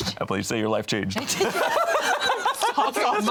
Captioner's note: all laughing